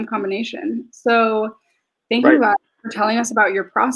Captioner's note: speaks faintly